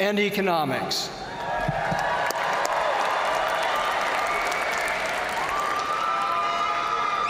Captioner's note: crowd cheering; crowd applauding